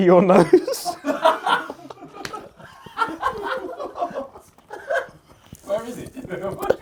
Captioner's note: laughs; audience laughs